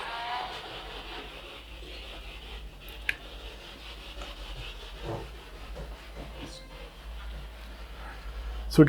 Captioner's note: noise of the spiritbox in the background